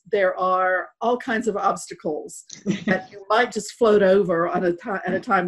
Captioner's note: none